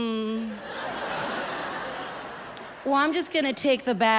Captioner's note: audience laughs